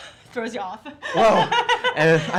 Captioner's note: laughter